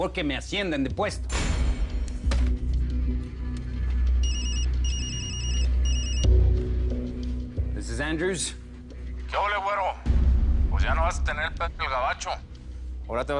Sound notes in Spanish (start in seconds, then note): 4.2 Suena el celular